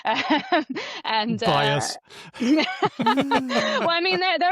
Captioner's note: laughs; laughter